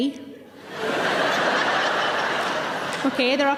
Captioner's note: audience laughing